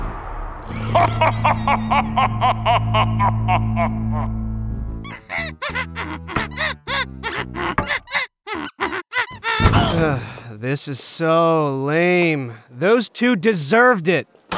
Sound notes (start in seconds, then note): 0.6 evil? laughter; 5.7 humming a song